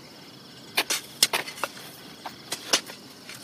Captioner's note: shovelling continues